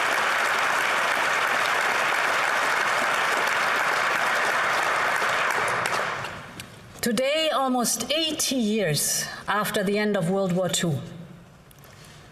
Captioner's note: applause